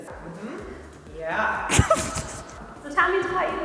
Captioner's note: laughing